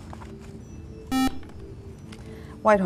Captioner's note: buzzer